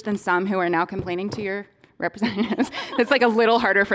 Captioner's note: laughing